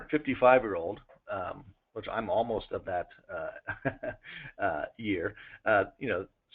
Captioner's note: laughter